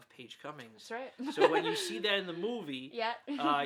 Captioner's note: laughs